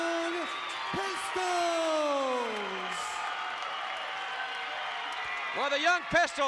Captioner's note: applause